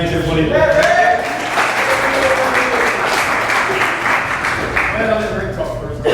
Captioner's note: applause